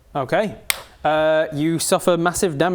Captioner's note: decisive hand slap